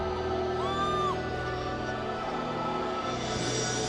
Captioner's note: fan screams